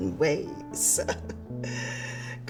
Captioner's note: chuckling